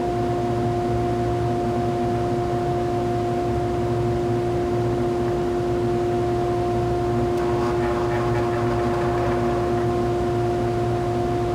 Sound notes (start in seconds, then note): 7.3 turns on saw